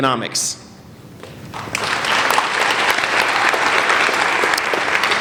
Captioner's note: applauding